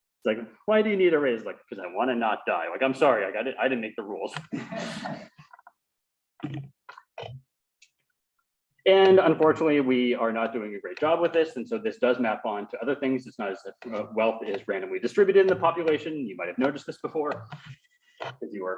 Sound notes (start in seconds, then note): 4.4 laughter